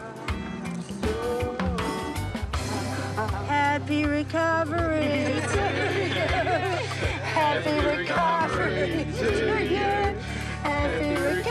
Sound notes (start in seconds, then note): 5.0 chuckles